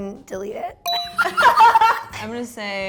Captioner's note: both laughing